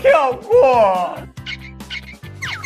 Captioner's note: chews